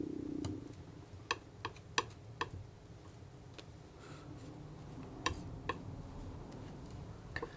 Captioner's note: tapping on paper